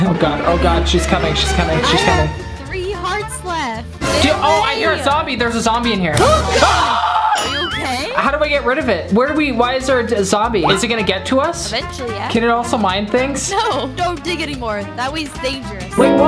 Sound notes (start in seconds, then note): 6.2 screams